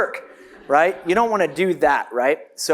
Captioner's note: audience laughs